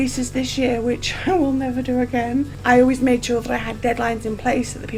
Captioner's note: laughs